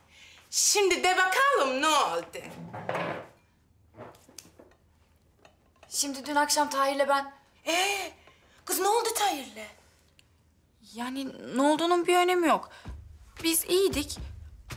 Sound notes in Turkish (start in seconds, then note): none